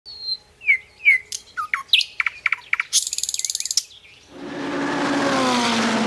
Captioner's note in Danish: Fuglefløjt